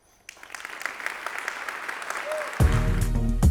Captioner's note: applause